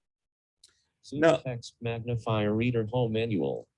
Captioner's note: computer voice